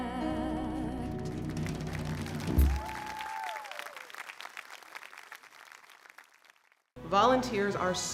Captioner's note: applause